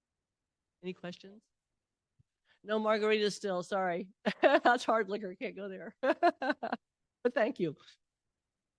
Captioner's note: laughter